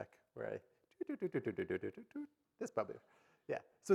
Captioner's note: imitates chittering